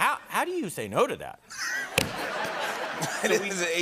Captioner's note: laughter